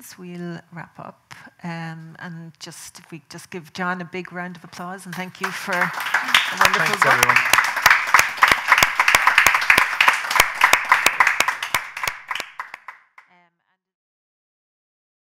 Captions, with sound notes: we'll wrap up and, and if we just give John a big round of applause and thank you for a wonderful book. (audience clapping) - Thanks everyone.